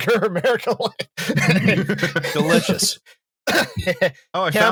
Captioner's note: laughter; laughing